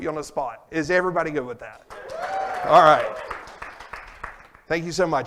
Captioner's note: applause and cheers